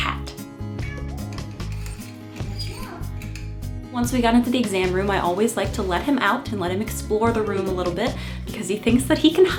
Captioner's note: meow!